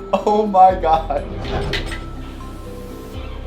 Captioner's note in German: mechanisches Geräusch